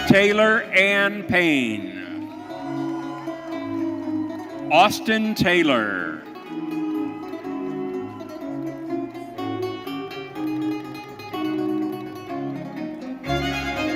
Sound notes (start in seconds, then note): 2.1 audience cheering; 8.1 bright orchestral music continues